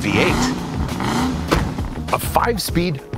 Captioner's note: engine revs